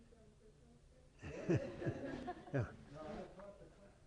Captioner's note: laughter